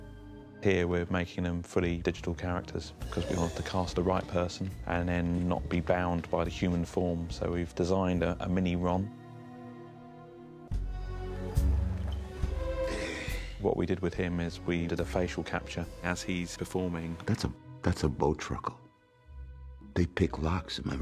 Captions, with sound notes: Here we ‘re making them fully digital characters, because we wanted to cast the right person and then not be bound by the human form, so we've designed a mini Ron. (SIGHS) What we did with him is we did a facial capture as he's performing. That's a Bowtruckle. They pick locks, am I right?